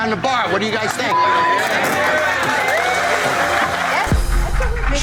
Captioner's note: cheering, applause